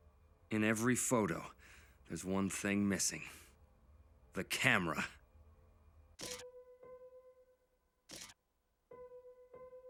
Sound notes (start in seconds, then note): 6.1 slides changing